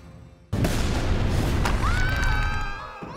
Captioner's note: screaming